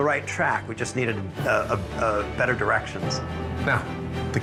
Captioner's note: stammering